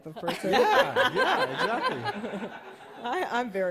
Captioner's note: laughter